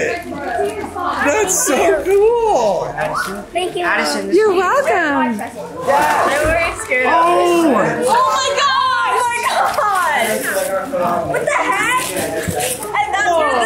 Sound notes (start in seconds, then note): 1.2 group chuckles and chatters; 6.4 group chuckles and chatters; 10.8 group chuckles and chatters; 11.3 laughs; 12.6 group chuckles and chatters